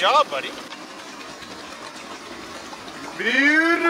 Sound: machinery whirring

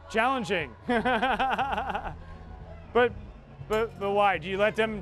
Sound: laughter

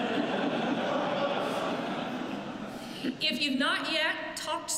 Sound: laughter

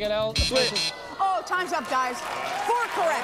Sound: buzzer sounds

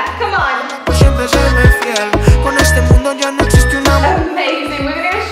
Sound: timer beeping

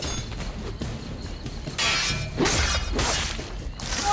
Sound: fighting sounds

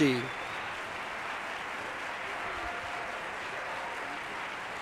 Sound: audience applauding

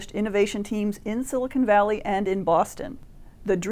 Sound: none

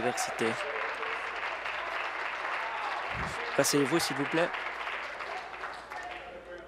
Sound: applause

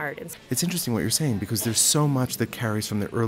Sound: voiceover

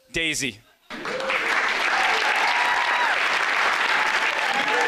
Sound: applause

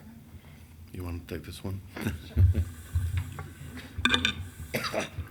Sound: chuckles

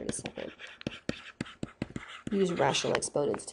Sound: scribbling

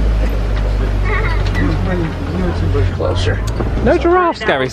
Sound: child laughs

